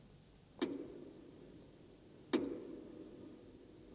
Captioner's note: knock